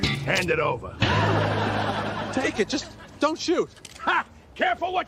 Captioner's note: laugh track